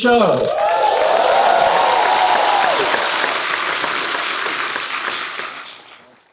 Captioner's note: crowd cheers; crowd claps